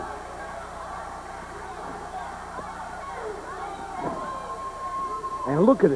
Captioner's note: crowd cheering